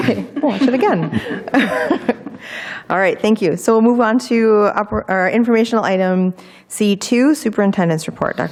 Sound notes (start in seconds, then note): 1.8 people chuckling